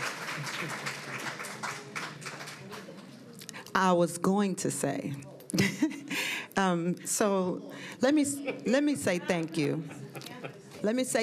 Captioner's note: applause